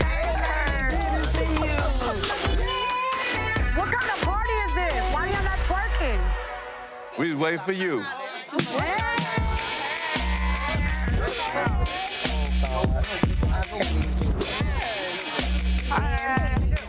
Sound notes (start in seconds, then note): 8.3 group shouting; 8.5 upbeat music